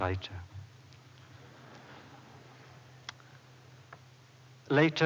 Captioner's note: laughter